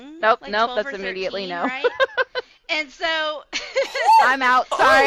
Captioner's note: laughter